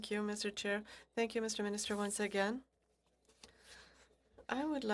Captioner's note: speaking French